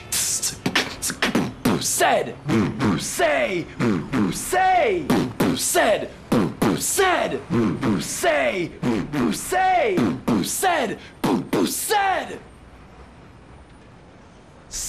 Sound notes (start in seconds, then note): 0.1 beatboxing; 11.7 yelling